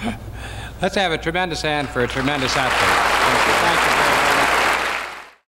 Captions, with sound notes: - LET'S HAVE A TREMENDOUS HAND FOR A TREMENDOUS ATHLETE. (AUDIENCE APPLAUDS)